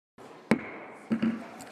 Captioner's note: gavel bangs